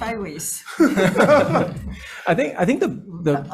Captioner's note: all laughing